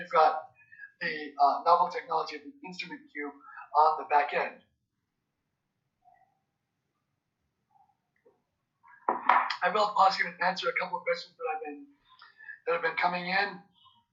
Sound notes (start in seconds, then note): 5.2 pause